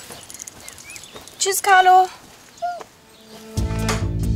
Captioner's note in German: Winseln; Dynamische Musik